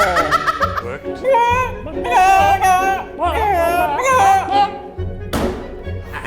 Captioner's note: cluck like chickens